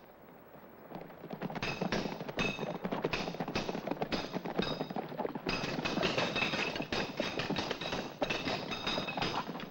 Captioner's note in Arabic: صوت حوافر الخيول; صوت صرير السيوف; صوت السيوف